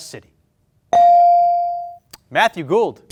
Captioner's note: bell ring